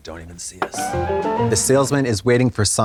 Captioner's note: bright chime